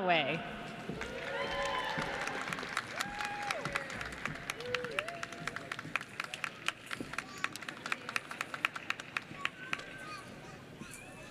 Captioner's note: applause